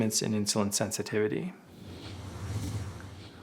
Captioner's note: whooshing